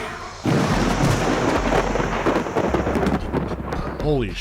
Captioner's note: loud thunderclap